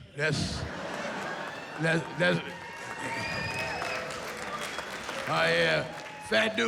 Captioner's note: cheering